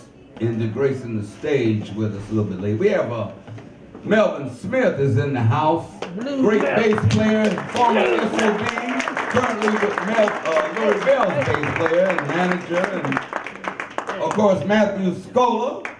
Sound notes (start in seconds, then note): 8.6 audience cheers